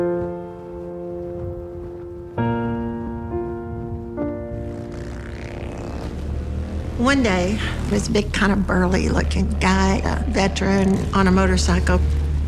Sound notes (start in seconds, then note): 0.0 flag flapping; 0.0 gentle piano music; 4.7 motor revving